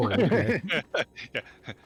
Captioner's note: laughing